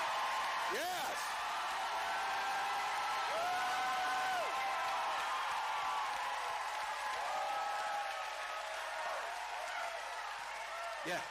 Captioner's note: cheering